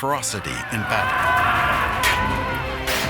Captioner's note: men shouting